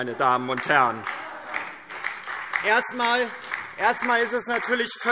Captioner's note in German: Beifall DIE LINKE und Freie Demokraten